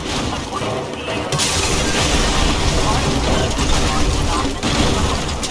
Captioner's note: explosions blasting